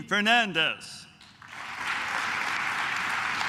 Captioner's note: claps